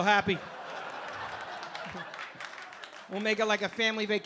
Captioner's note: audience laughing